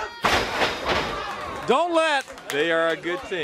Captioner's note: crowd cheering